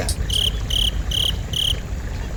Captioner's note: crickets